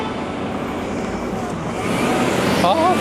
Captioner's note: A very busy and noisy street